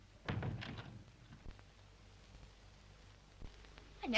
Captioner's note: door closes